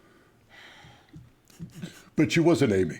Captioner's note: sighs